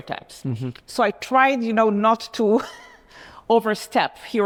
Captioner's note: chuckles